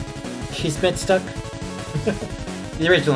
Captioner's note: chuckles